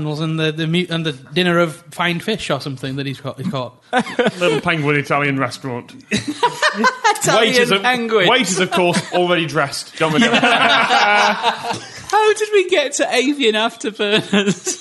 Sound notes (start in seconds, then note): 3.9 laughter; 8.4 laughter; 9.9 laughter drowning out the rest of sentence